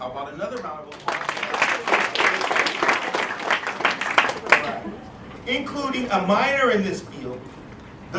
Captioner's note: applause